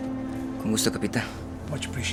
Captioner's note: in Spanish- "With pleasure, Captain"